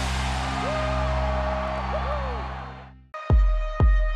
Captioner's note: cheering; drum beats